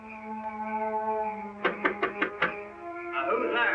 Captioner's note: knocking